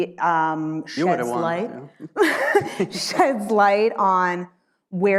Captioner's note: laughs